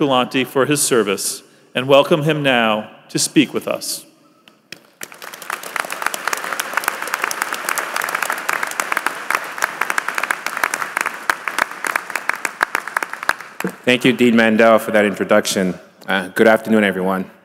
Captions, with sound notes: COMMUNITY, I'M GRATEFUL TO MR. TULANTE FOR HIS SERVICE AND WELCOME HIM NOW TO SPEAK TO US. [APPLAUSE]